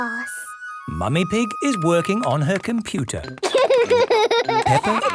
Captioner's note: laughter